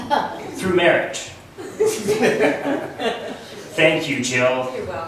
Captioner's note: laughs